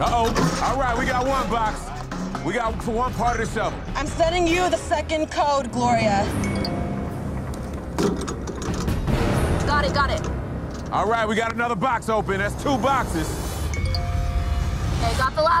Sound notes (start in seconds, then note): 6.3 digital beeping; 6.6 urgent music; 10.3 metal rattling; 13.7 digital beeping